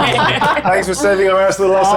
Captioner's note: palms clapping; players laughing